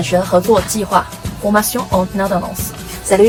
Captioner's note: in french